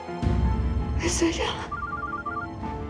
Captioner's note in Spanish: suena el celular